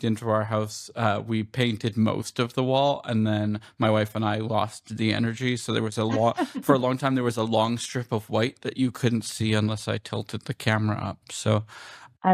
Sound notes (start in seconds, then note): 6.0 laughter